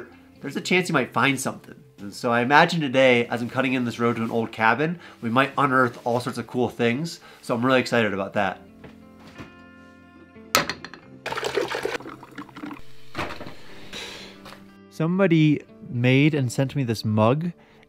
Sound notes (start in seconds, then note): 9.2 fridge door clicking; 11.2 water trickling; 11.2 coffee percolating; 11.3 egg cracking on plate